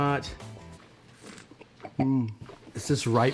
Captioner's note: slurps and swishes wine